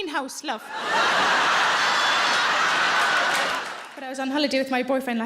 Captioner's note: audience laughing